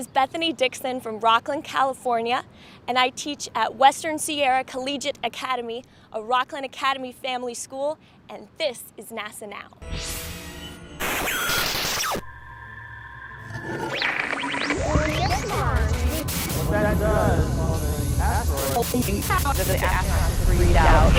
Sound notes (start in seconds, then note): 9.8 sound Effects